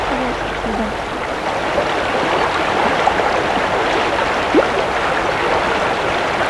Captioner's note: running water continues